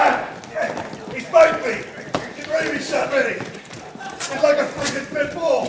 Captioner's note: speaks faintly